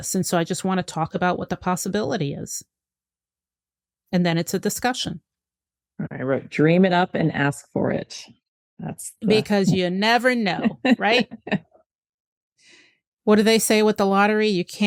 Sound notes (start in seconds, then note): 10.5 laughs